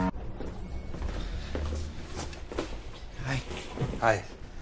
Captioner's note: footsteps